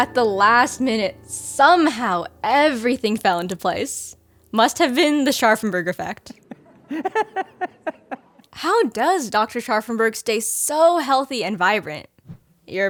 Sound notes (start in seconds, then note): 6.4 laughing